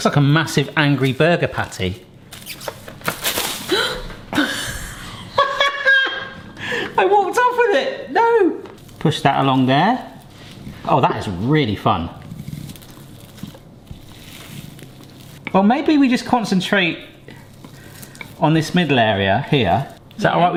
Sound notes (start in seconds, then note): 3.6 gasps; 4.3 laughing